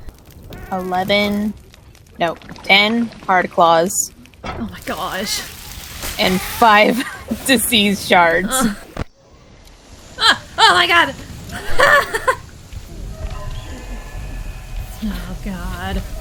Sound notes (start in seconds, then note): 11.5 laughs in panic